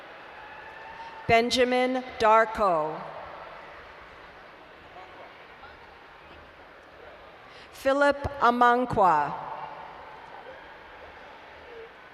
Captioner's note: laughs in the background